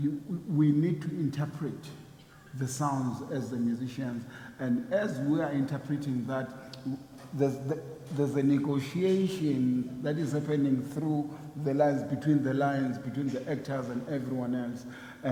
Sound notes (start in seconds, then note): none